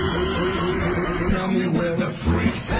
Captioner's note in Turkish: ' De Gülüyor